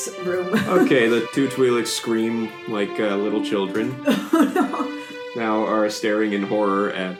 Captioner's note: Liliana laughs